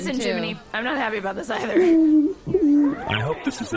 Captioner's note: Jiminy sobs more